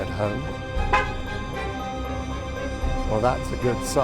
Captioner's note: horn honking